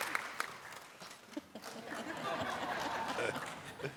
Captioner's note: applause